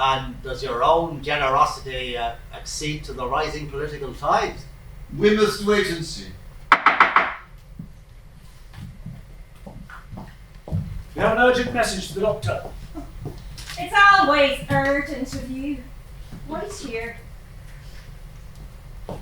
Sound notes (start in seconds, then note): 6.7 knocking